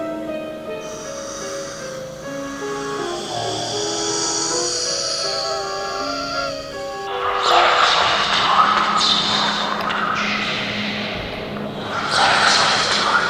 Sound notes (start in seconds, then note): 1.1 breathing heavily; 7.3 feeble whispering